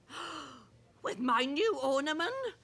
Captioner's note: gasping